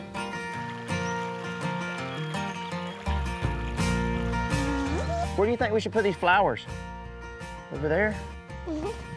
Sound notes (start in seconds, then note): 3.6 stream gently rushing